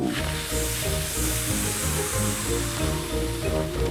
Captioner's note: all blow